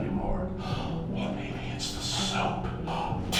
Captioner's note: gasp